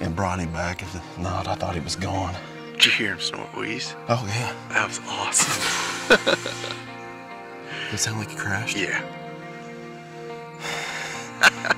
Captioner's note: laughing like a tool